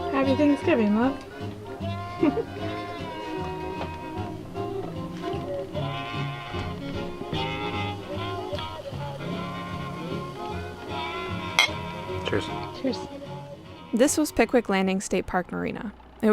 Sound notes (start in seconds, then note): 2.1 giggles; 11.5 glasses clink